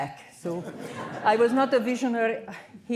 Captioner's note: laughter